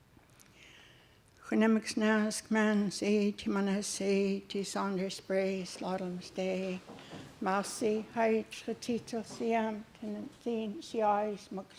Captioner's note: speaking Hul'q'umi'num